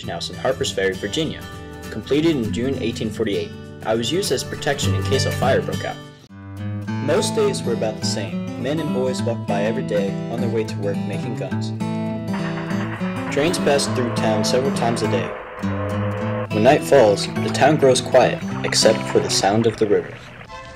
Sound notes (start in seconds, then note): 11.9 train sounds; 20.0 sound of river